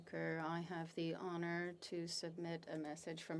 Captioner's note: speaking French